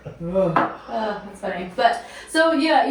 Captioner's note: groaning